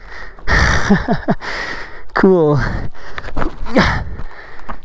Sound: sound of climbing

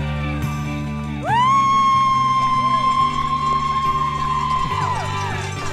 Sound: people cheering and clapping

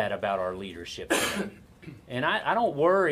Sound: coughs

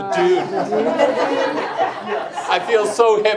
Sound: group laughs

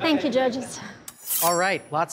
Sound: knives slicing

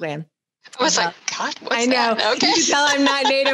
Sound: laughs

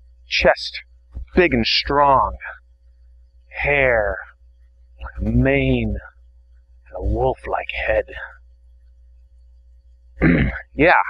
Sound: clears throat

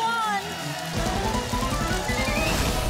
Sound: audience applause

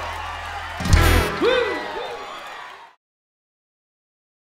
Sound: audience cheering

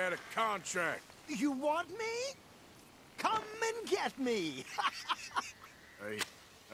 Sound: laughs and lights something on fire

